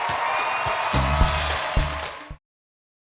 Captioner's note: cheers and applause